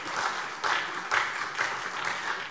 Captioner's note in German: Beifall SPD